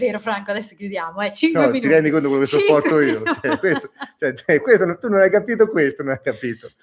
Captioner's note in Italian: risate